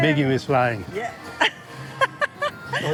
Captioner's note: laughs